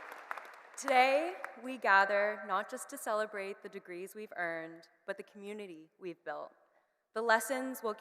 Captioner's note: cheers and Applause